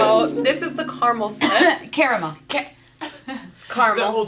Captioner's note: coughs